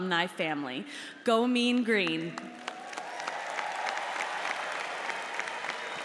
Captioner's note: audience applauds